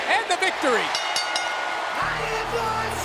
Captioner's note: ring bell dinging